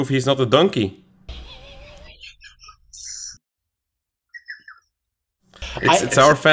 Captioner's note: chuckles